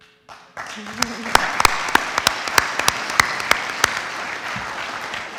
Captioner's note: audience applauds